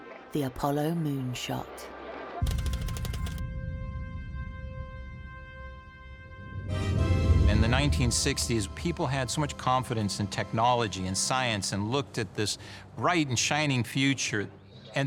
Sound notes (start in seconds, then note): 2.4 triumphant music; 2.4 text clicking